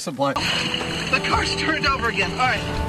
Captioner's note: water splashing